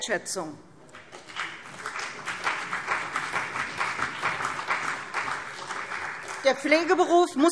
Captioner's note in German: Beifall CDU und Bündnis 90/Die Grünen